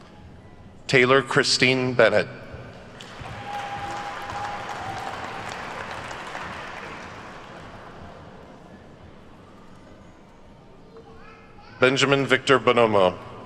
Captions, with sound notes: Taylor Christine Bennett. (attendees cheer and clap) Benjamin Victor Bonomo.